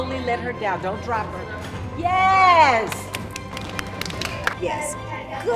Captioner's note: claps